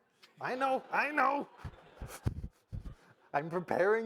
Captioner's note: all laugh